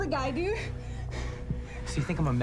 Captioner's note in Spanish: Respirando profundamente